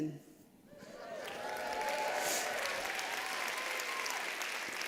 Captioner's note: applause